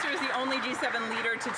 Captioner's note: speaking Alternate Language